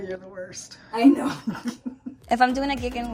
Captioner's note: laughs